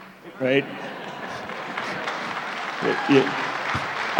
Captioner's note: laughter, applause